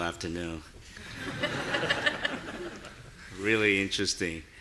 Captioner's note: audience laughing